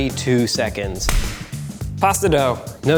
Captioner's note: clap